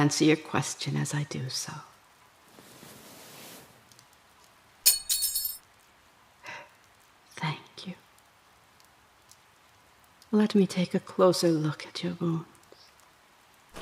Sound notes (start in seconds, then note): 4.9 weapon falls to the ground